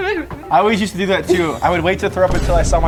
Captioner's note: person whimpering